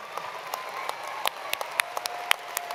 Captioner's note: applause